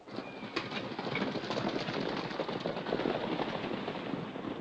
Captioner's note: horses galloping